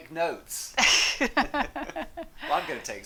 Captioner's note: laughs